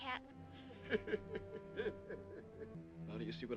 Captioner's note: laughing